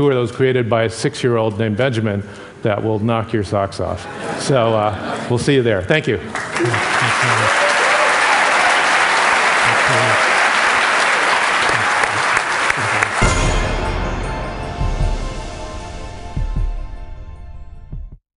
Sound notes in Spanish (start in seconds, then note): 8.2 Aplausos